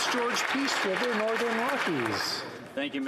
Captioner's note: some Applause